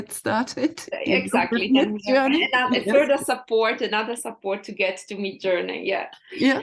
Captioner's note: laughs